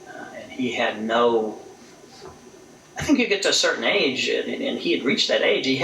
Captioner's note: none